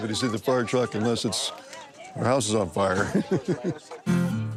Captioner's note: laughs